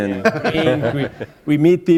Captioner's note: laughter